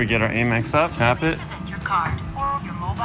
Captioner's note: automated Voice